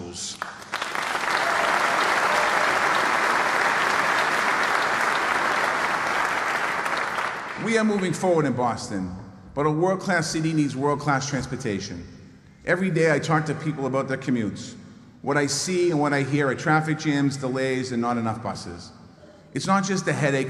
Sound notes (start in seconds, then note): 5.1 applause